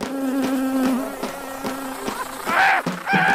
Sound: buzzing intensifies

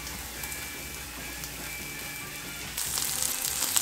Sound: frying sounds

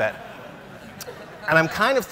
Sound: laughs

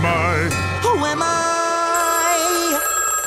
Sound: phone rings

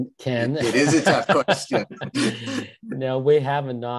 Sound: chuckles

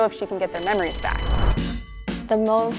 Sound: bell rings; upbeat funk music plays

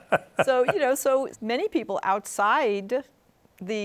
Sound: laughs

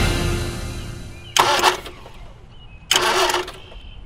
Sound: engine stalling

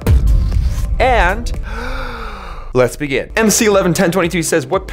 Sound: deep breath

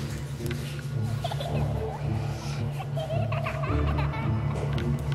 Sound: creepy giggling

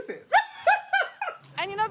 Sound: laughs

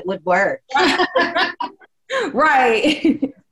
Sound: laughing loudly

